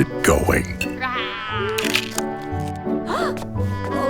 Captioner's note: sound of a camera taking a picture